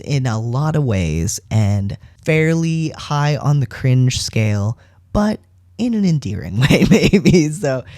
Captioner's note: laugh